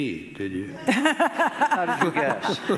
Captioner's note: hunter laughing